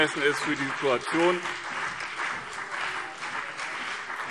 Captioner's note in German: Beifall BÜNDNIS 90/DIE GRÜNEN und CDU